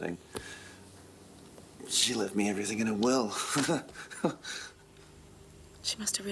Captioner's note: laughs